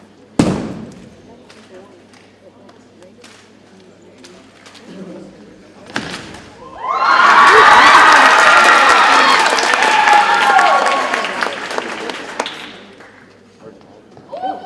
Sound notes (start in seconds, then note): 6.7 audience cheers and applauds